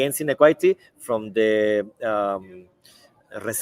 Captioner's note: speaks in Spanish